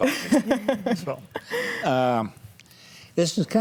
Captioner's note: laughs